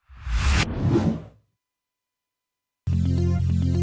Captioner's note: text whooshes; light electronic music